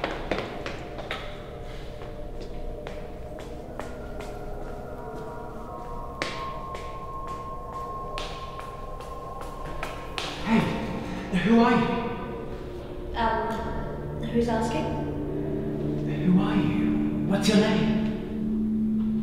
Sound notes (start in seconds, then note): 1.7 footsteps